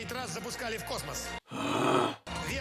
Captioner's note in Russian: рычит